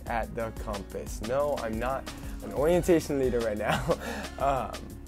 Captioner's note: laughs softly